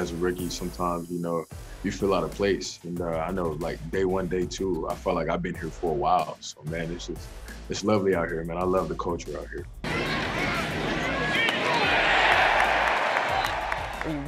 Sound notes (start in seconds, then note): 9.8 crowd talking; 12.0 crowd cheering